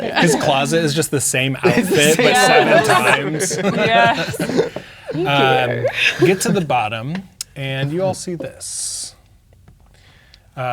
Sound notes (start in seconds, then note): 1.6 all laughing; 2.7 all laughing and talking